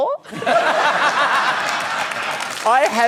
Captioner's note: laughter